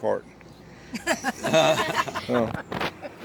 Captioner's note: laughter